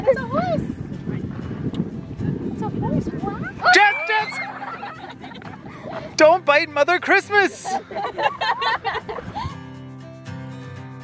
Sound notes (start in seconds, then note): 3.4 kids screaming; 3.7 family laughing; 7.4 family laughing